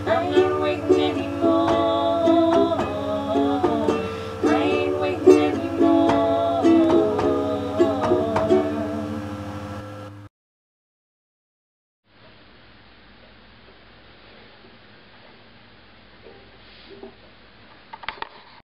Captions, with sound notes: I'm not waitin' anymore-ore-ore I ain't waitin' anymore-o-o-ore-o-o-ore. [Static...Click]